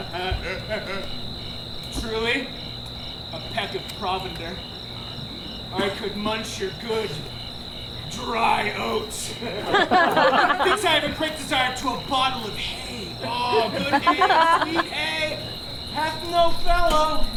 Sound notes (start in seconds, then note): 0.0 laughs; 9.2 audience laughs